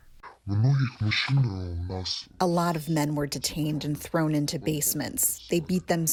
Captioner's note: through translator